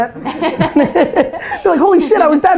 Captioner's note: laughter